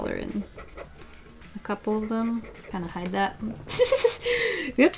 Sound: laughs

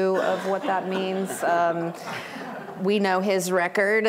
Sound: laughter

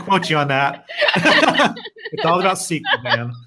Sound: laughing

